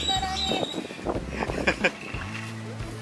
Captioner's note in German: Lachen; Gelächter